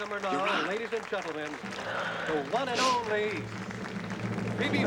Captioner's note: applause in background